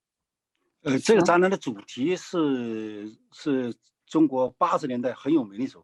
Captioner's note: speaking in foreign language